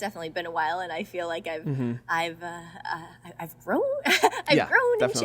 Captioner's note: laughs